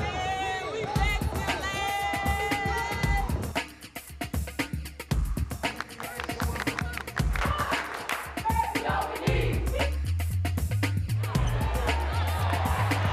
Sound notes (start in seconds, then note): 2.2 rhythmic music; 5.6 women clapping; 6.8 women cheering; 10.4 lively music